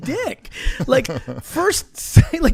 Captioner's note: laughing